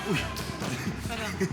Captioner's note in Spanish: Gemidos y risas de él; Golpes